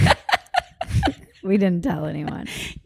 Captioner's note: both laugh